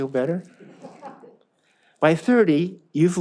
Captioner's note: audience laughs